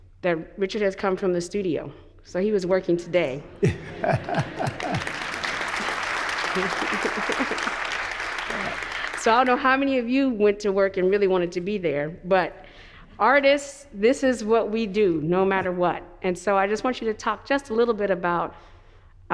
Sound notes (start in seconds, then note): 3.6 laughs; 3.6 audience applauds